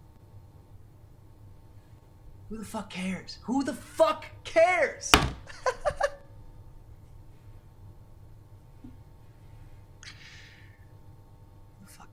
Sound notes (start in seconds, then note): 5.1 hand slams; 5.2 giggles; 10.1 inhales deeply